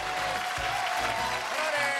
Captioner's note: cheers and applause